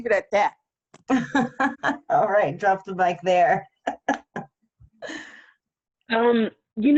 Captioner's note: laughing